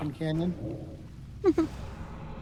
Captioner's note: laughter